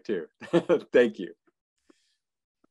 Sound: laughing

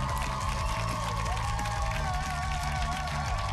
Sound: cheers and applause

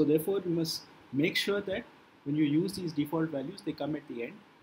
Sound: static

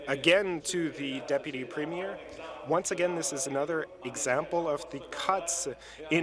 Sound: speaking French

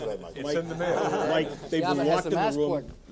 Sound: all laughing

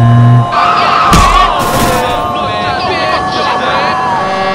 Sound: various screaming noises

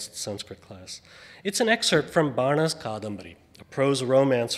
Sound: speaks foreign language

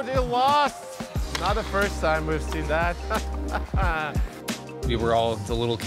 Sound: chuckling

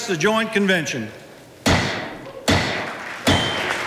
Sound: gavel banging; audience applauding

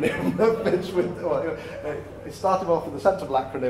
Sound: laughter

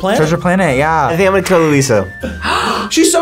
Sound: gasps

